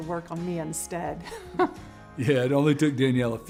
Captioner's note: chuckles